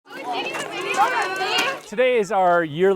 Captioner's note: walking